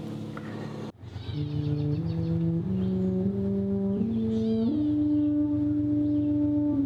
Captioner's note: birds chirping; slow tuba music